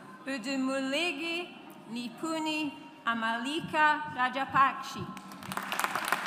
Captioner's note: audience applauds